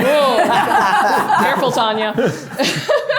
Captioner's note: everyone laughs